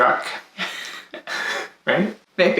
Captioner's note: laughs